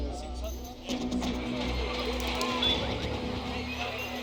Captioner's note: crowd, traffic and music